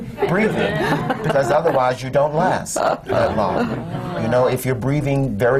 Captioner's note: laughter